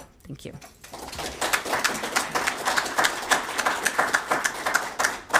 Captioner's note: audience applauding